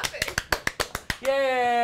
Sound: crew clapping

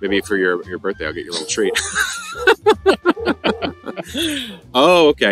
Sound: laughing

